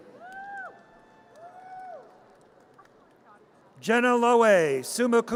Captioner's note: audience cheers